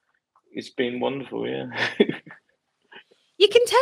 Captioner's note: laughs